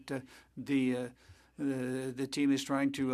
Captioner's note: speaking French